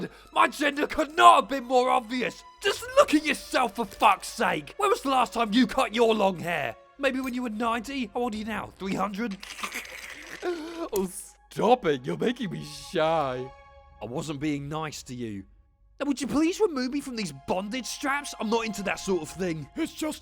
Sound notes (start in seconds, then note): 9.6 giggles